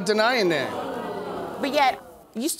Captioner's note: audience exclaiming